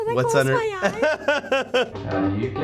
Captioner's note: laughs